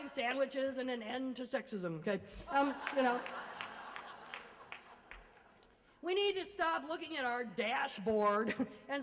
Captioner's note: laughter